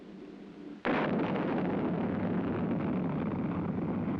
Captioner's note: rocket thrusters ignite